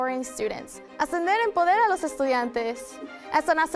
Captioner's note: speaking Spanish